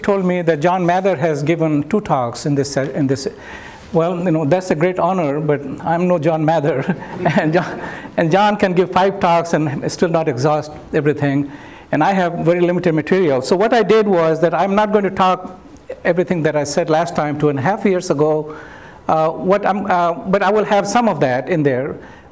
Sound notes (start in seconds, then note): 6.7 chuckles